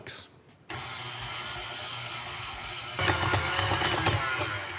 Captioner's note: mixer whirring